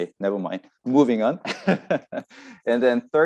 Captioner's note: laughs